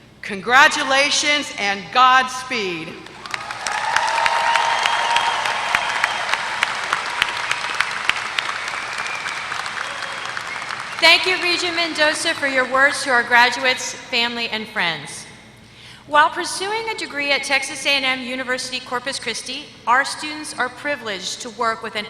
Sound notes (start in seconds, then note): 3.0 applause